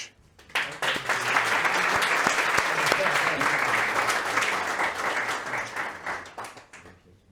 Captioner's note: applause